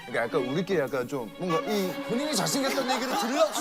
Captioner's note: holding in laughter